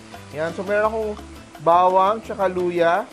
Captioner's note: sizzle